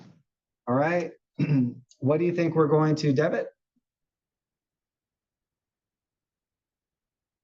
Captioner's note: cough